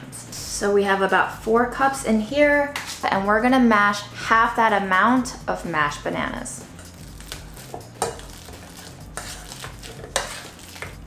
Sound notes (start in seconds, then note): 8.1 bananas squishing